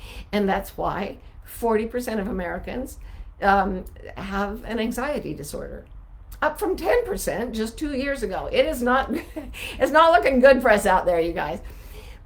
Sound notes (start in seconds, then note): 9.1 chuckling